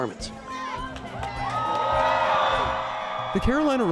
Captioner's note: crowd cheers